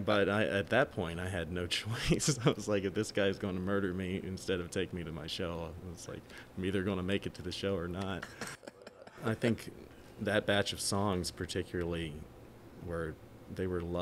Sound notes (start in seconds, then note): 2.0 chuckling; 8.1 laughing